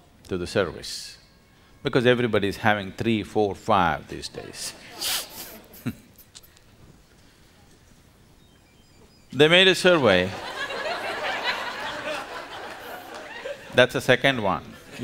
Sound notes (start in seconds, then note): 8.2 laughs; 10.0 laughter